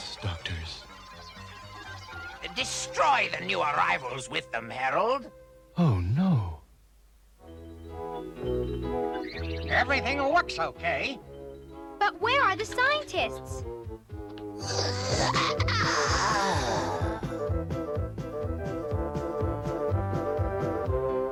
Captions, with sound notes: YES, DOCTORS. DESTROY THE NEW ARRIVALS WITH THEM, HAROLD. OH, NO! EVERYTHING LOOKS OKAY! BUT WHERE ARE THE SCIENTISTS? (YAWN) (SNIFF SNIFF)